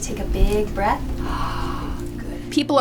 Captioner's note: inhaling